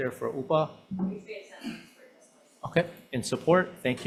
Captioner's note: member speaks faintly